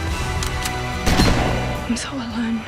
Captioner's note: gunshot